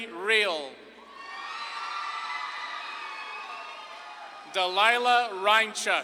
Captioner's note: audience claps and cheers